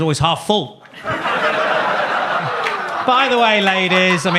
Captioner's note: audience laughs